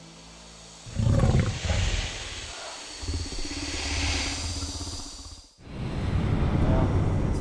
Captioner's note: growling and hissing